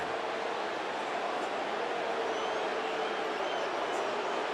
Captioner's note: booing